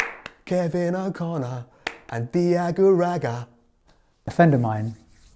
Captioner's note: claps hands